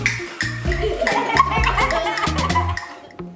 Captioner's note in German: Knacken